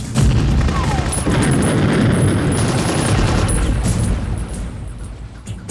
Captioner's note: ominous music; machine gun firing; bomb explodes; ominous music